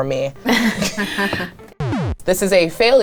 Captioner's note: chuckles